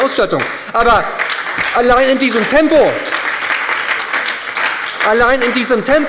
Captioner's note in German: Beifall bei der SPD